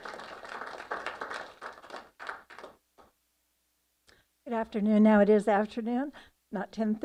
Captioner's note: applause